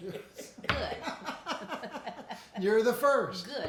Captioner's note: everyone laughing